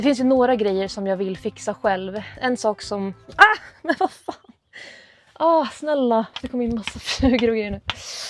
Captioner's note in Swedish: skratt